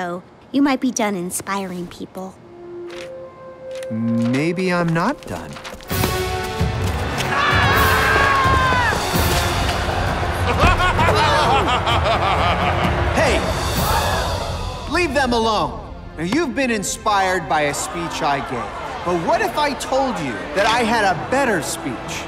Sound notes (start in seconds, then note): 7.4 Tommies cheering; 10.5 man laughing; 13.8 Tommies exclaim